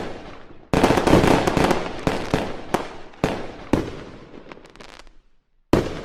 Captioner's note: firework explosions